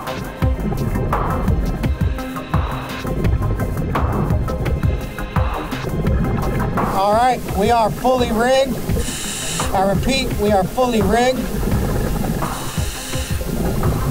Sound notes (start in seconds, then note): 0.1 tense pulsating music continues; 2.4 continuous heavy breathing through mask; 4.1 continuous water bubbling